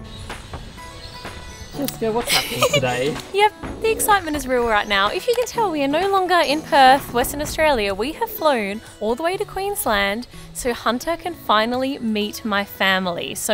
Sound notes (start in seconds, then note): 0.1 upbeat music; 2.2 giggles